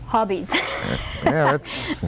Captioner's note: laughter